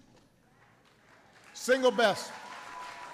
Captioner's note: applause